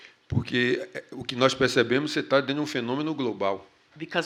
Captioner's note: speaking portuguese